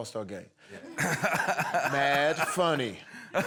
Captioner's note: laugher